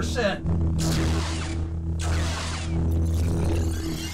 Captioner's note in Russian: световые мечи сталкиваются